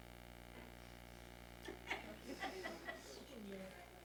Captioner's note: audience chuckles